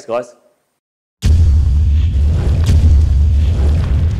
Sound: thudding

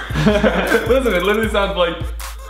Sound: laughing

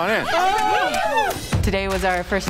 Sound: cheering

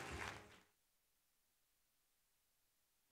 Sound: applause

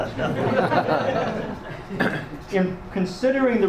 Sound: audience laughs

